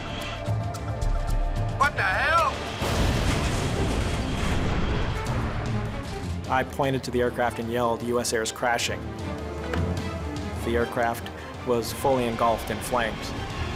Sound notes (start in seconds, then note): 2.0 pilot On Radio; 2.7 plane produces loud bang